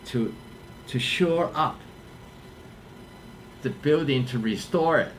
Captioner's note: none